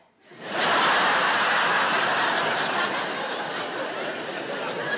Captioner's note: audience laughing